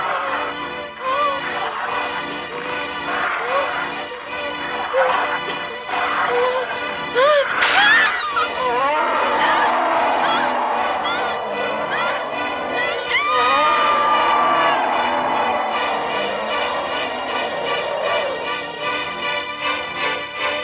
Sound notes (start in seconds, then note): 0.3 bear growls; 1.0 Mom whimpers; 7.4 scream; 7.4 tearing sound; 10.1 frightened moans; 10.1 roaring sound; 13.2 blood curdling scream